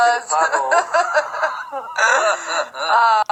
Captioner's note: both laughing